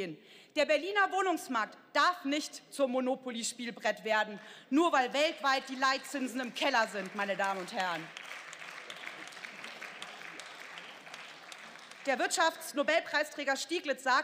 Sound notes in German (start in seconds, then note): 8.3 Beifall